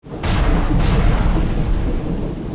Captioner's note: thunder sound